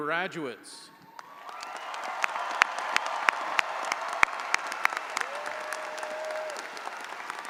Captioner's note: audience applauding; audience cheering